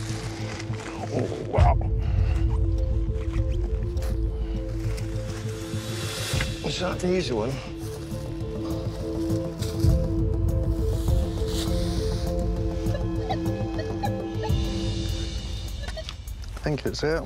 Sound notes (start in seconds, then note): 12.3 beeping